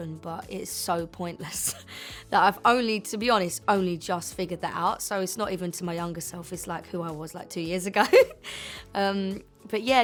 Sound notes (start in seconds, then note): 8.0 giggles